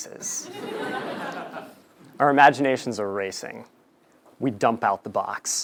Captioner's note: laugh